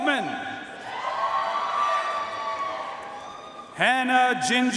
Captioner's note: audience cheering and applauding